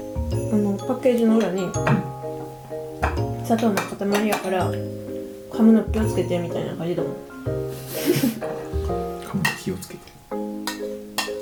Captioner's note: laughs